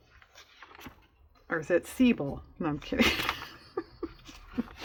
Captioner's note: laughs